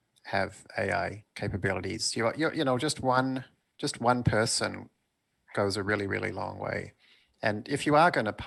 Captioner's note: chuckles